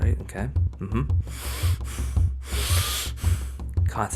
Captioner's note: heavy breathing